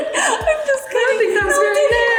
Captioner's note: laughing